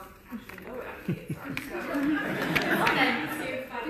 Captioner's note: audience laughter